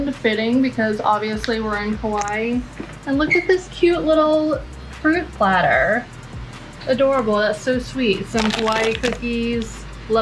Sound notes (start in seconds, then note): none